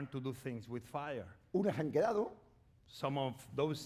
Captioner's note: speaking spanish